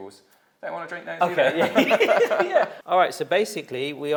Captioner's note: both laughing